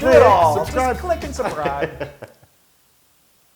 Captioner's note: laugh